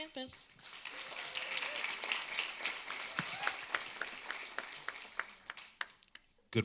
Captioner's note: applause